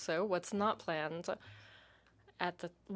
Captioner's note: speaking in French